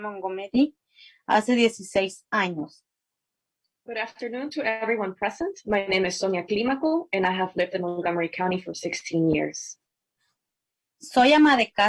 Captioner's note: spanish